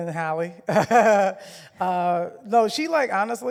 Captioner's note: laughs